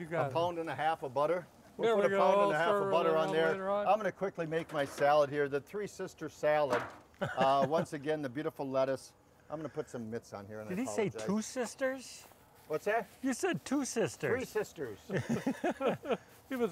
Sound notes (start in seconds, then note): 5.1 pan thudding; 7.2 laughing; 14.9 men laughing